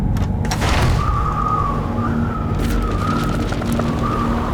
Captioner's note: wind whistling